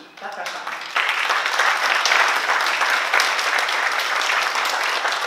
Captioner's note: oklaski